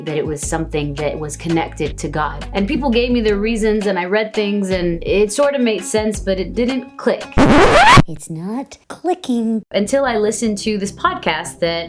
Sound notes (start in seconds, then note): 7.4 vinyl record scratches